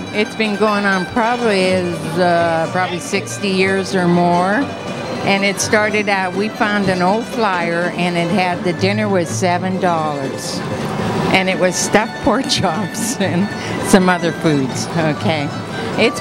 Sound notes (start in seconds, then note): 13.0 chuckles